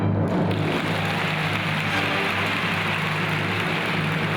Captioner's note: audience applauds